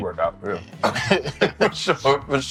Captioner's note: laughter